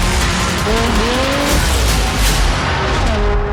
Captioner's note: engines roar; tires skid